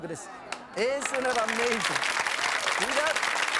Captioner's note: audience clapping